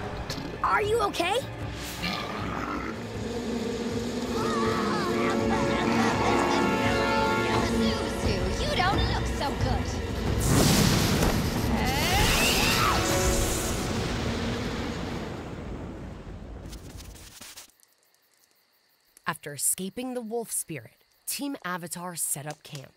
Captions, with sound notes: Are you okay? [groaning] Zuzu, you don't look so good. After escaping the wolf spirit, Team Avatar set up camp.